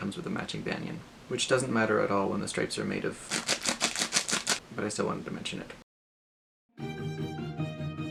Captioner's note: crinkling sounds